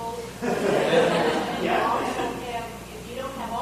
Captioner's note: audience laughing